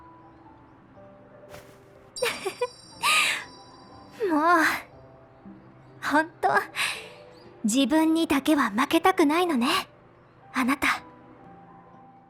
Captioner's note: laughs